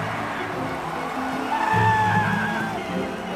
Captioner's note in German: Jubel; Jubelruf; Gemächliche Musik